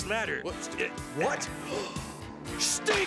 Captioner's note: gasps